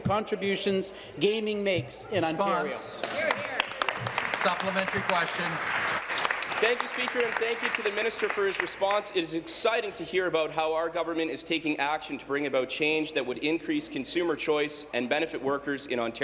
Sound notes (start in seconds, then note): 6.5 applause